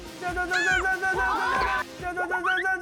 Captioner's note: agh!